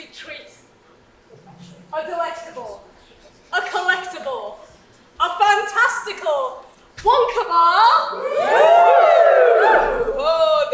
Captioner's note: audience cheers